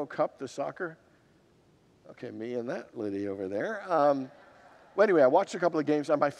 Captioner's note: congregants laugh